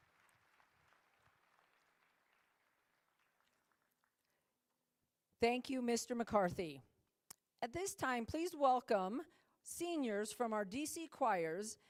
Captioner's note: applause